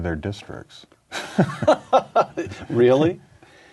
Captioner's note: laughter